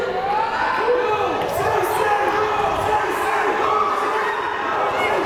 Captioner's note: crowd chanting